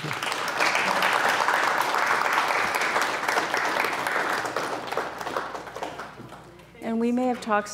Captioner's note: applause